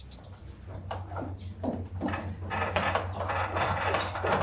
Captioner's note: stairs creak